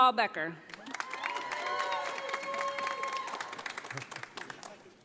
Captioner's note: audience applauding